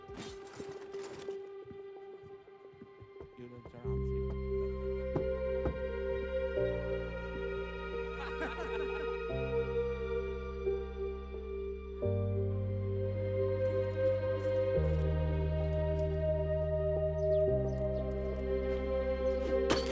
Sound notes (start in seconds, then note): 5.1 knocking on door; 8.1 group laughing; 16.9 birds chirping; 19.7 toys clanking